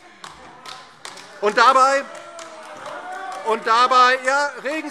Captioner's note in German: Beifall DIE LINKE und vereinzelt SPD - Zurufe Freie Demokraten